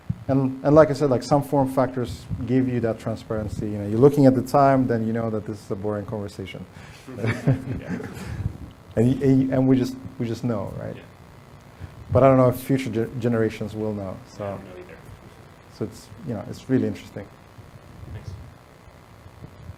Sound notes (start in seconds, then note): 7.2 audience laughs